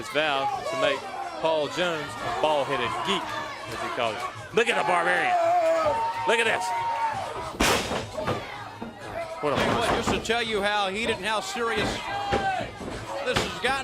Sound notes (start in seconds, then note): 4.0 crowd chatter; 8.8 crowd cheering